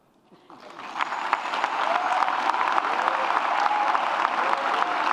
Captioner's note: audience applauds and cheers